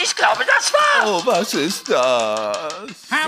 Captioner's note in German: jammert